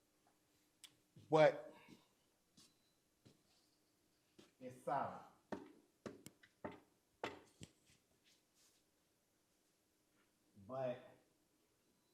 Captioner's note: knocks on an auditorium seat